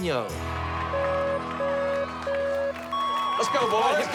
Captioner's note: beeping